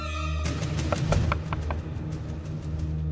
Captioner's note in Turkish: Kapıyı çalıyor